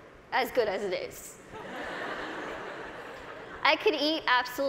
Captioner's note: laughter